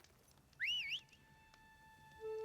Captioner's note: whistle